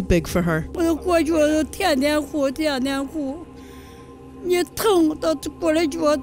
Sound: speaking foreign language

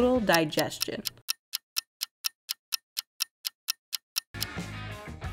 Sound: clock ticking

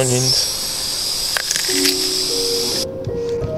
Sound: onion crunch

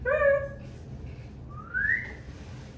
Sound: whistles

